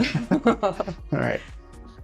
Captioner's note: laughing